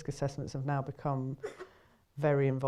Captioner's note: coughing in the background